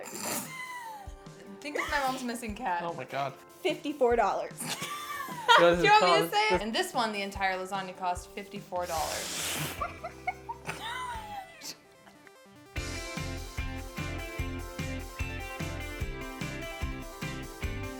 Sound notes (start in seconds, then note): 0.1 snorting and laughing; 4.6 laughing; 9.7 laughing; 12.7 upbeat music